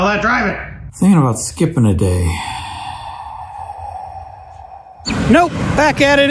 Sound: sighs

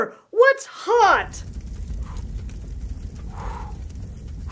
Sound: fire crackling

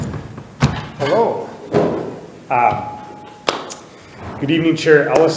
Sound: chair thudding

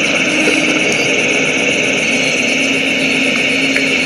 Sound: water sloshes

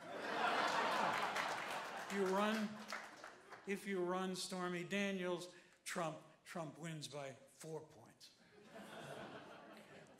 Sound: applause

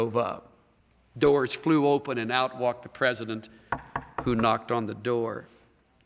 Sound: knocks

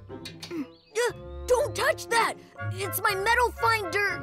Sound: exclaims

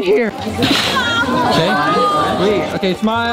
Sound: girls exclaiming

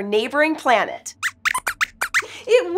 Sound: squeaks squeaks

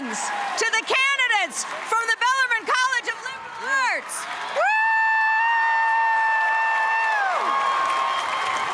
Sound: cheers and applause

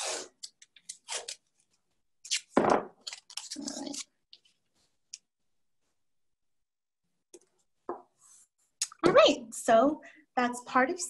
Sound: pulls tape

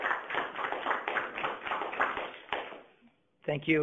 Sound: applause

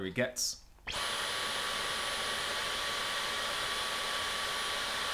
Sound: vacuum whirring

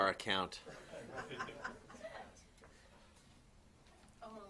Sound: laughter

